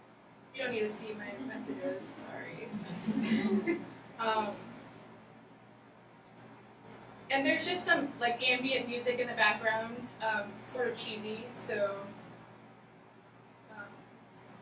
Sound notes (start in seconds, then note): 2.7 laughing